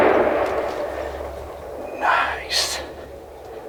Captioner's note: whispering